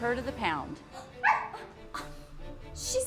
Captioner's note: Pony barks